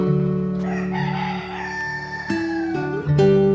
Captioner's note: cockerel crows; peaceful music